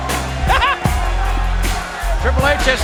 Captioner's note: Jerry laughs